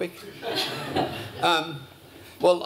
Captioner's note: laughter